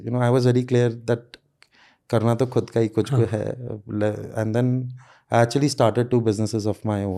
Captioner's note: speaks in Hindi